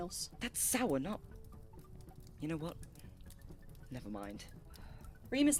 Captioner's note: Remus sighs